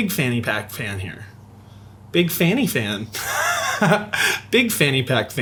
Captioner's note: laughs